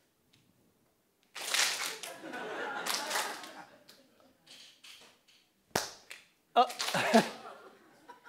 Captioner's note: laugh